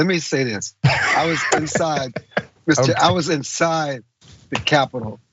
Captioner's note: laugh